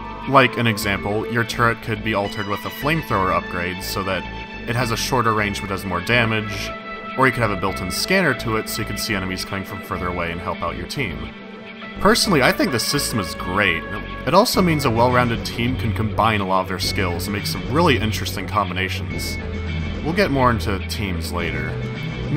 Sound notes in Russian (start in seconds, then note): none